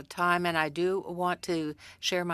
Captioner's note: speaking french